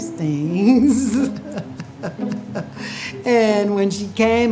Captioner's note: laughing